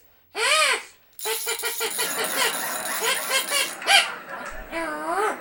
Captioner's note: ratchet sound